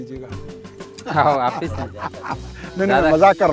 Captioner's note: laughs